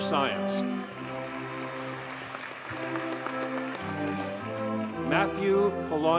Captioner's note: audience cheers and applauds